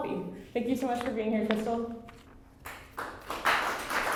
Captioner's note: applause